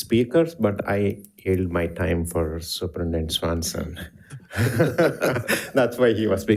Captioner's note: laughs